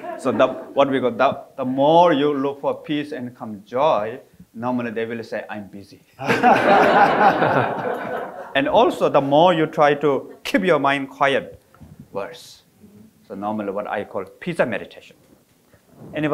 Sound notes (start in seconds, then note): 6.2 all laughing